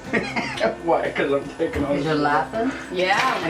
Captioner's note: laughs